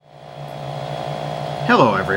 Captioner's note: loud humming from the 5-inch TV